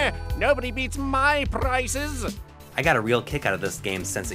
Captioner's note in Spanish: audio del juego